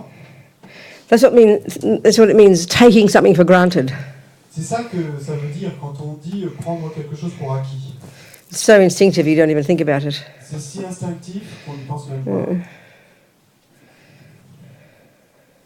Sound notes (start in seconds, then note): 4.1 French; 10.1 French